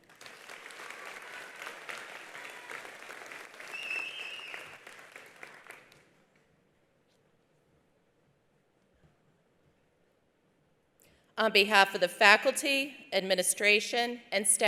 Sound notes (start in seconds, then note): 0.0 attendees applauding; 3.6 attendee whistling